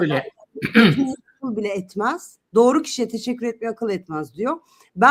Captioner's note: boğazını temizler